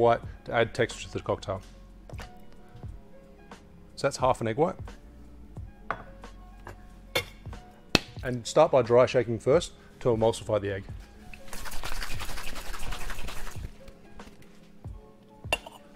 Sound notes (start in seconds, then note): 11.4 cocktail shaking